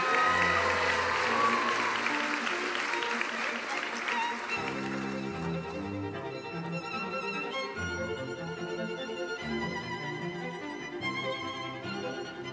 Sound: cheering and applause

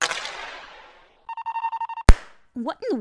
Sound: beeping; pop

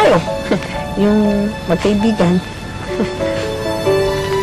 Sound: chuckles

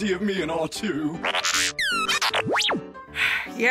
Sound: hopeful beeps

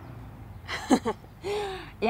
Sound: laugh

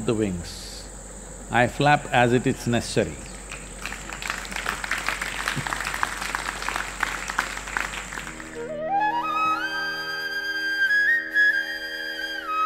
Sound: applause

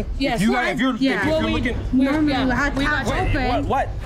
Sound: bartenders chattering

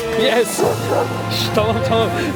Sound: barking sound

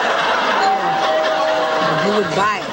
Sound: doorbell rings

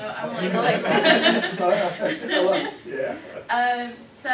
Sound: laughter

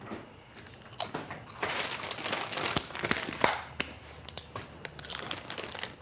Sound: bag rustling and crunching chips

